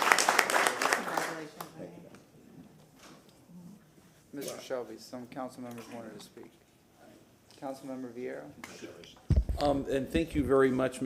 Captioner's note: applause